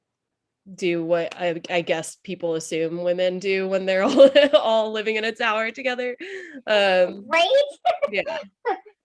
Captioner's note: laughs